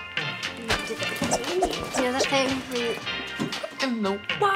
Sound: whooshing continues

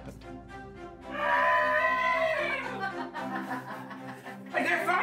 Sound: lively music; people screaming

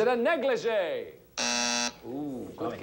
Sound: buzzer sounds

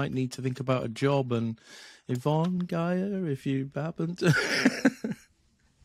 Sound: laughs

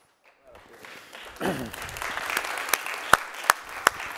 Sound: applause

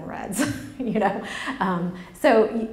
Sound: laughs

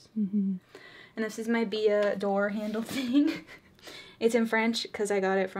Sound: laughs

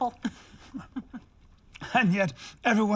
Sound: chuckles

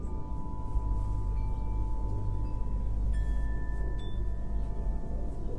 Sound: slow, almost rhythmic clinking sounds

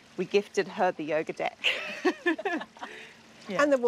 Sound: laughter

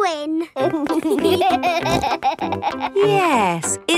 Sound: laughing

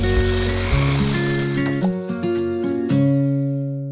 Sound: reel rolling

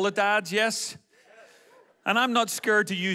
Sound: men exclaim

